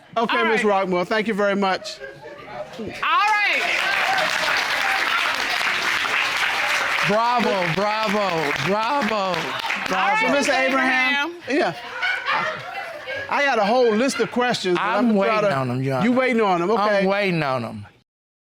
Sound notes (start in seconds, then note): 3.2 audience applauding